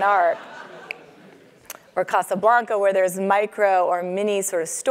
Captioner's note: laugh